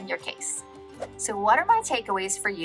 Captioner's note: air whooshing